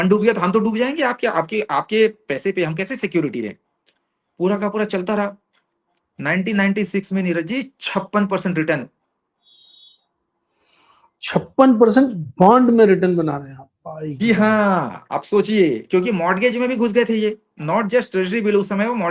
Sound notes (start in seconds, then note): 10.4 nasal sound